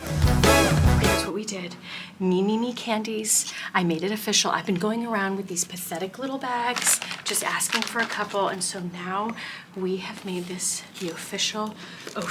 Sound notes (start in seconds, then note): 0.0 exciting music; 6.1 plastic crinkling